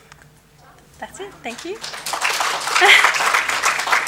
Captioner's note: applause